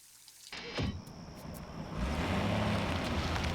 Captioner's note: door thuds; truck engine rumbling